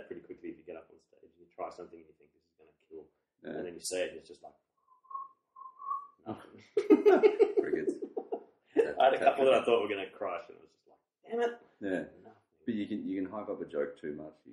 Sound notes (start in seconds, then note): 5.6 crickets; 6.8 laughs